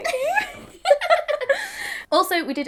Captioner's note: both laughing